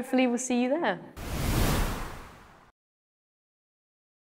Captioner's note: air whooshes